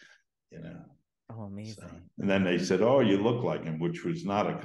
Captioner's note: laughs